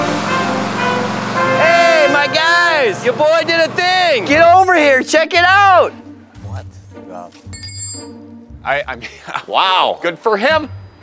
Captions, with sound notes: - Hey, my guys! Your boy did a thing. Get over here. Check it out! - What the– (drops wrench) I, I mean– wow! Good for him!